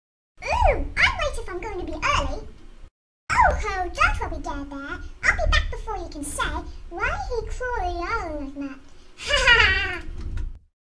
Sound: laughs and leaves

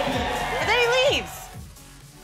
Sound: audience cheering

